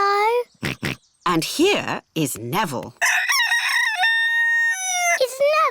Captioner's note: george oinks; rooster crows